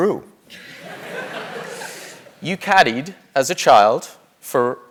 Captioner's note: laugh